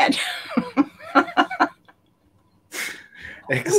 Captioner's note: laughter